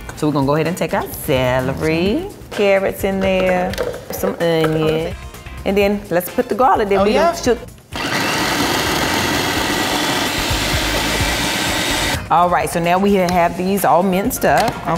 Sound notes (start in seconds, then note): 7.9 food processor whirring